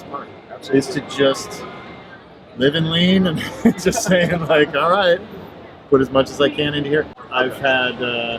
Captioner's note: laughs